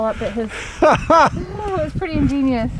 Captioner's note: laughing